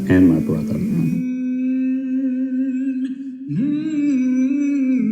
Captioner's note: man humming somberly